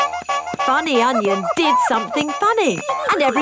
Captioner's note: shoes honking